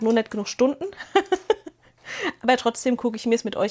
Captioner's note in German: gelächter